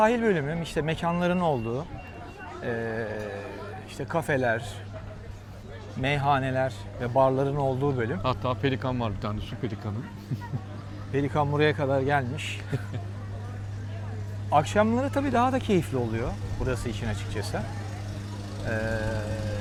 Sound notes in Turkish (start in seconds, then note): 10.0 kahkaha